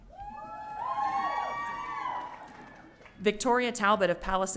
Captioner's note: audience cheering